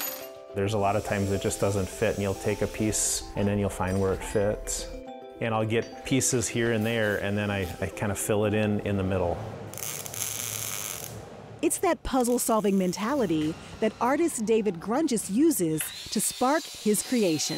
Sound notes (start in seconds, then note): 9.7 sparks crackling